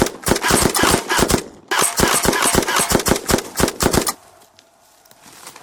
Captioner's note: gunshot noises